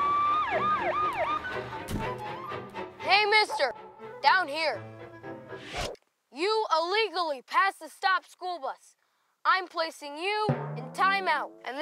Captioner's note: police sirens